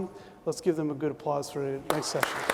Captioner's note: applause